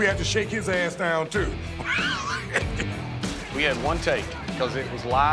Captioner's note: laugh